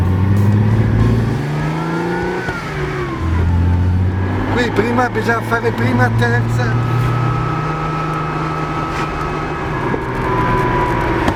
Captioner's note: 246 engine sound